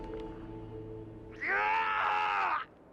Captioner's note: screaming